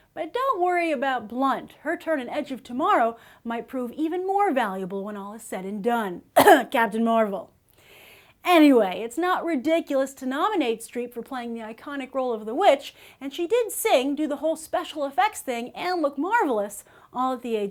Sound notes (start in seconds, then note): 6.3 cough